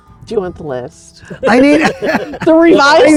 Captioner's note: all laughing